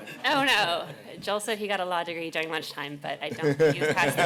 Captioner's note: laughter